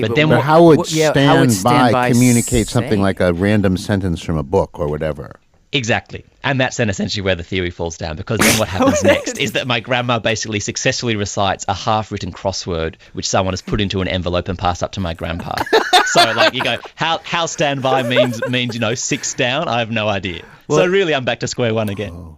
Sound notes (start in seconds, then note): 15.5 laughs